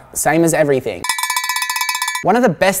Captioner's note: rattling